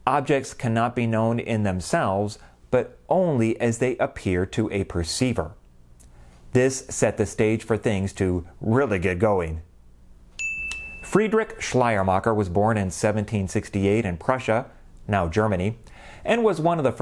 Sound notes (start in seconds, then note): 10.4 chime